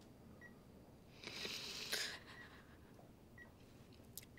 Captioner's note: Ashley sighs; Ashley snivels